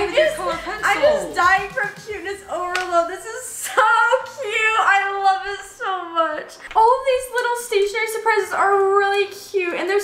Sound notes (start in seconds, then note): none